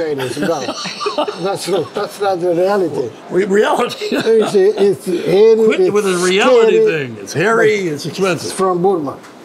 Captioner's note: all laugh; laughs